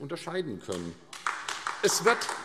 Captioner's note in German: Beifall AfD